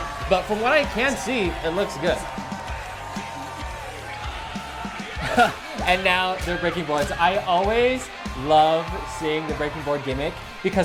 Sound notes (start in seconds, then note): 3.5 audience cheering; 5.0 laughs